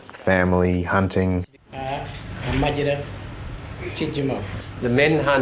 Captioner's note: man speaks in Indigenous language